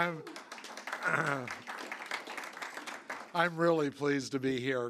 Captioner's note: applause